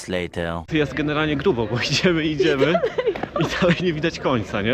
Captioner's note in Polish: śmiech